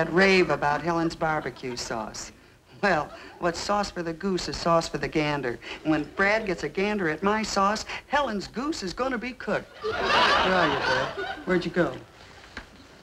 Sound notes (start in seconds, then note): 9.7 audience laughing